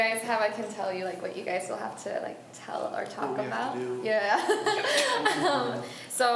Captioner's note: laughs